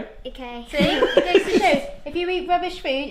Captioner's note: laughs